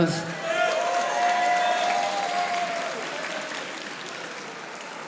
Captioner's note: audience applauding